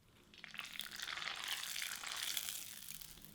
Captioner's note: crackling